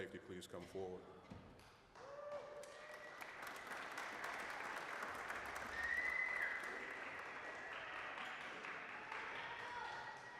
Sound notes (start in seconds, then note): 1.9 applause